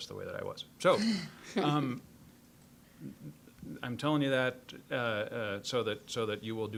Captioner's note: scattered laughing